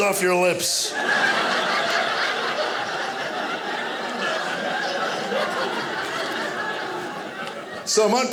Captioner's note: audience laughing